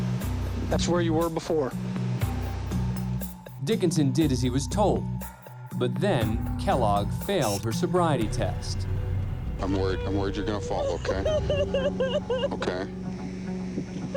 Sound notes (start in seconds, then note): 9.6 crying